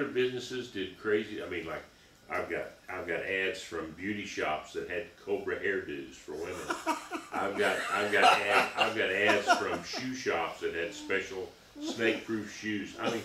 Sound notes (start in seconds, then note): 6.4 laughing